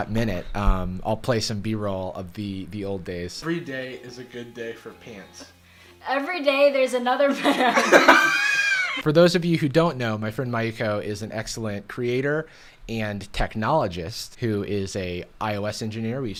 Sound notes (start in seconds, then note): 7.4 laughs